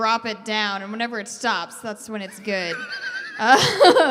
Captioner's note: wheezing